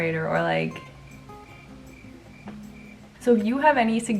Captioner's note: crickets